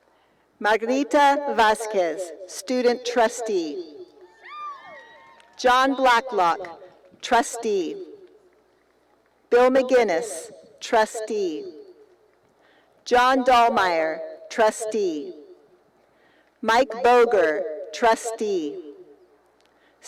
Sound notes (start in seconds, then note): 4.3 cheering